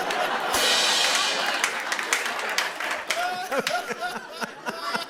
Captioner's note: laughter; laughter and applause; cymbal crashes